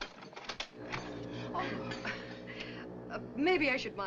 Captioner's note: foghorn Blows